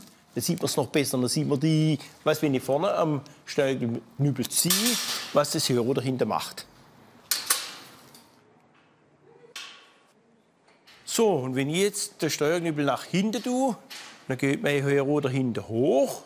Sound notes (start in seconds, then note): none